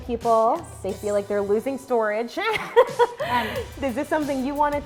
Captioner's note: laughs